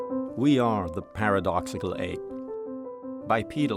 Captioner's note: voiceover